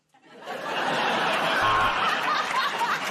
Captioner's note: buzzer buzzes; laughter